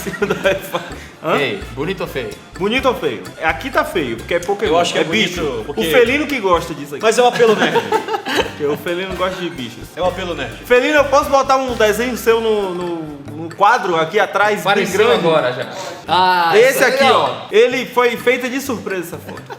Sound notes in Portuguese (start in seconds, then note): 0.0 Entre risos; 7.2 Risos